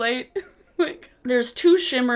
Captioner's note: laughs